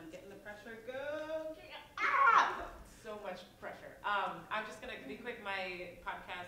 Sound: mild scream

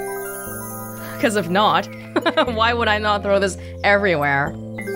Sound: chuckles

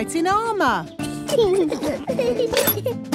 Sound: children giggling

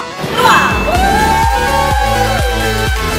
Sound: cheers for guest

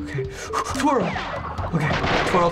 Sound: sharp breaths

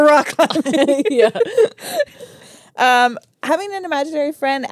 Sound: laugh

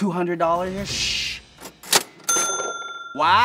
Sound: cash register rings

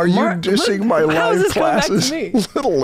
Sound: chuckles

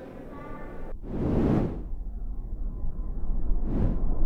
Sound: air whooshing

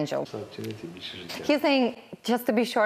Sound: speaking foreign

